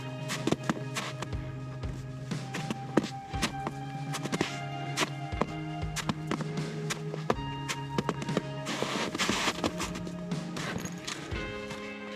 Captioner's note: footsteps